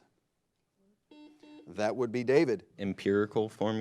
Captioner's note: buzzer blares